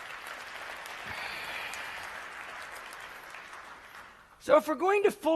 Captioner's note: applause